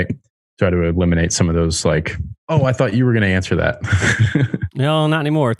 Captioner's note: laughs